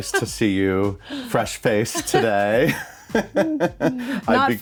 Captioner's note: chuckles